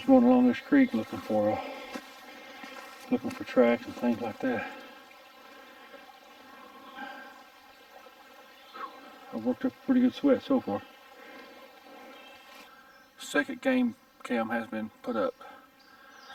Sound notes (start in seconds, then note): 5.6 burbling water; 6.5 heavy breathing